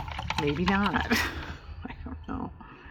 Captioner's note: laughs